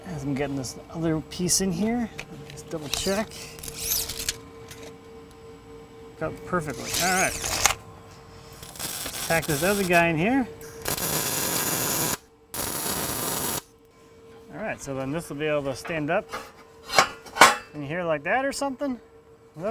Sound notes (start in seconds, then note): 3.6 measuring tape unfolding; 10.9 welding electrode sparking; 16.9 metal clashing